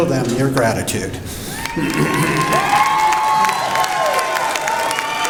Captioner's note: cheering and applause